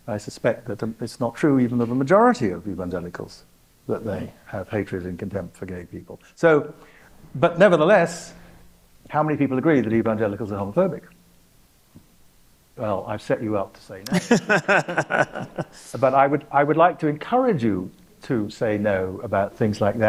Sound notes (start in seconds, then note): 14.0 laughs